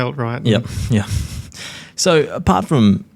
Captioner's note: chuckles